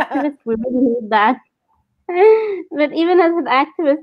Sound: laughs

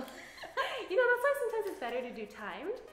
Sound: laughs

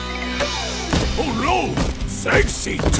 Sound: thumping

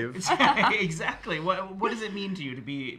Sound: laughing

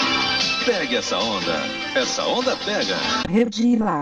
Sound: male announcer speaking Portuguese

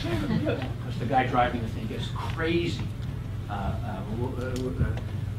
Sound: laugh

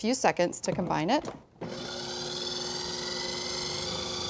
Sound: whirring

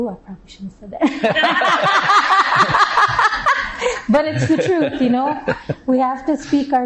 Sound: laughter

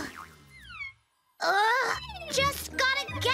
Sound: grunting

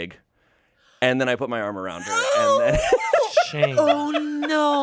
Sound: laughs

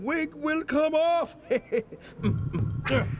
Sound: chuckles

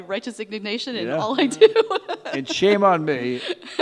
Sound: laughing

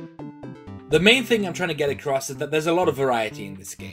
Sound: none

